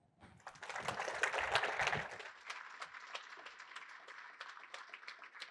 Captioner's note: applause